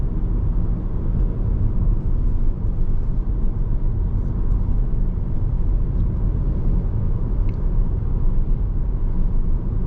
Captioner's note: car engine roaring